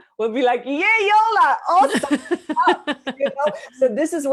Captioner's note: laughs